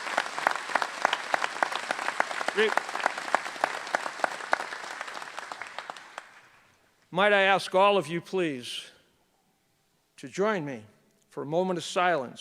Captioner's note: applause